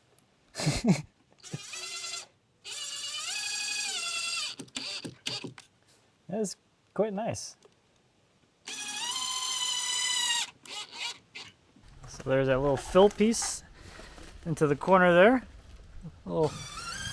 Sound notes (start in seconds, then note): 0.5 chuckling; 8.6 drill whirring